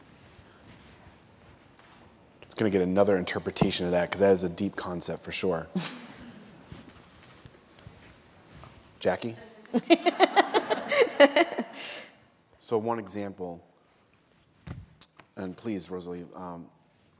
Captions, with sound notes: - It's going to get another interpretation of that because that is a deep concept for sure. Jackie? [LAUGHTER] - So one example, and please, Rosa Lee,